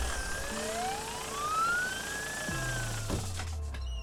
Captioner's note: engine running; sirens wailing